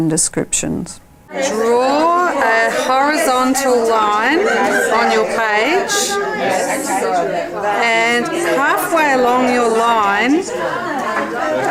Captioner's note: audience chatter